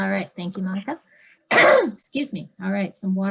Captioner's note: coughs